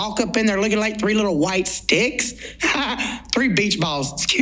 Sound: laughs

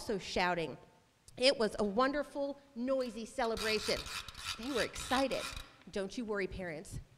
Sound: clacker noise maker

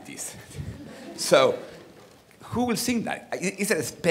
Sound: audience laughing

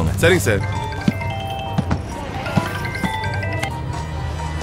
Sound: phone rings

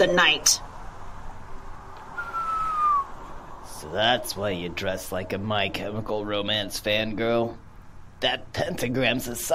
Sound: low whistle

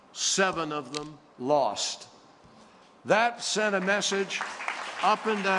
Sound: applause

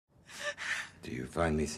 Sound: breathing heavily

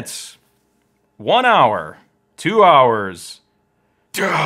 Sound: groans

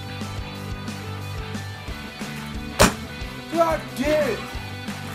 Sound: boom

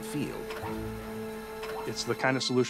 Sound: machinery whirring

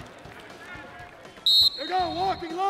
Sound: whistle

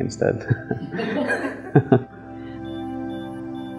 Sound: laughter

